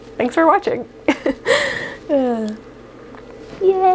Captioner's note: self conscious chuckling